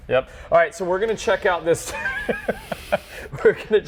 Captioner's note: laughs